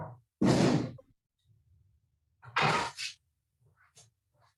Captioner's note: oven door slamming